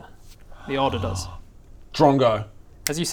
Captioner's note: gasp